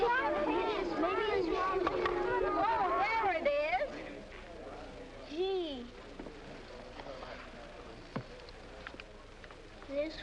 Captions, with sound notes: I losted it. - Look at your pants. - Maybe it's fallen. - (kids clamoring) - Oh There it is. Gee.